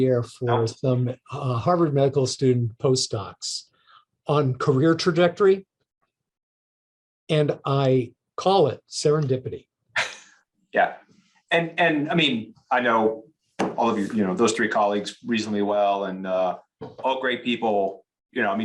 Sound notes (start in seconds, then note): 10.2 laughs